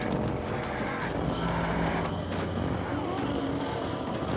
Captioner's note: loud clattering